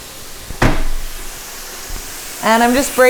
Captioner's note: sizzling